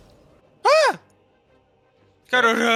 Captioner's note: ahh